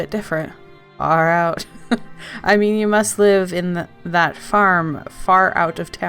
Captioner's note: laughs